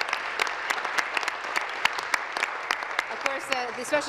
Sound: applause

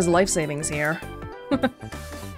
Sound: chuckles

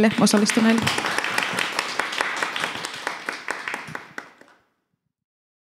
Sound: applause

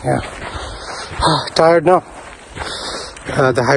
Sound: sighs

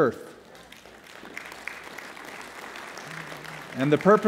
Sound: applause

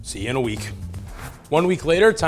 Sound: transition whooshes

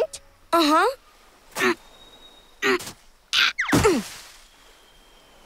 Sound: grunting

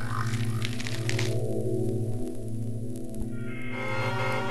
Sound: shower noises; cromching of cereal; cars beep

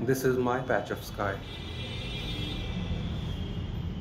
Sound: horns honking

